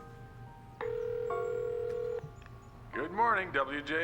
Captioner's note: ringing